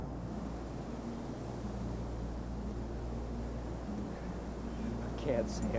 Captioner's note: trees rustling in the wind